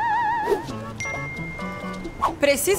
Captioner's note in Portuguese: barulho de mensagem